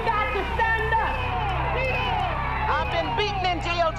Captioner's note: audience cheering